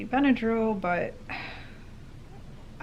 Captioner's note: sigh